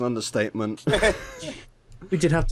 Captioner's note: laughter